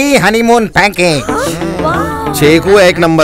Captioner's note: Exclaiming